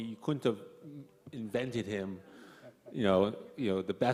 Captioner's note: none